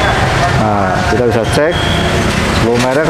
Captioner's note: motorcycle noise; praying sound; motorcycle noise; praying sound